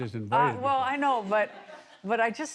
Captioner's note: laughter